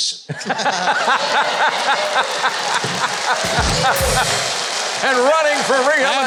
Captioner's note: audience laughing and applauding